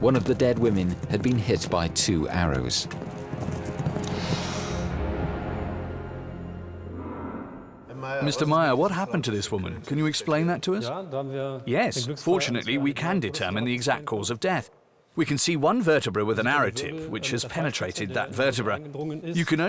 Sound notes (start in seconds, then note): 8.0 in German; 11.6 in German